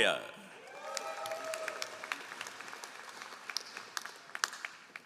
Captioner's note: all applauding